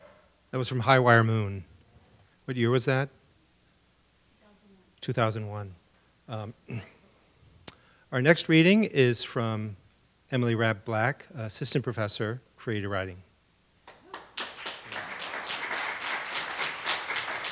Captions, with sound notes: That was from high wire moon, What year was that? 2001. Our next reading is from Emily Rapp black assistant professor, creative writing. (applause)